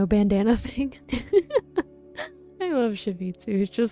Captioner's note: giggling